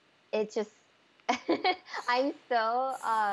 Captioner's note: laughs